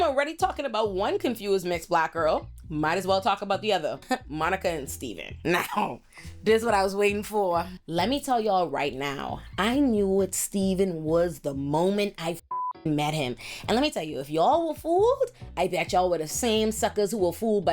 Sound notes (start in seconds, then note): 12.4 beep